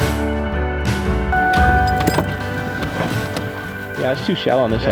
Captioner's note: car beeping